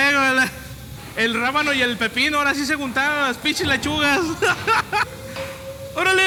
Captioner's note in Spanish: risa